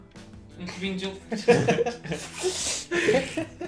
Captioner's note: sucking sounds